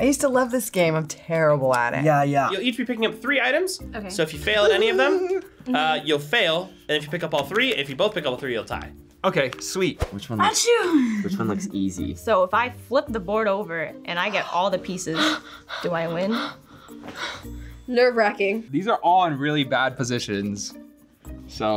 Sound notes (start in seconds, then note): 10.9 laughs; 15.0 gasps